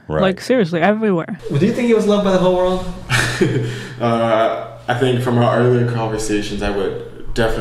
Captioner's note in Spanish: risas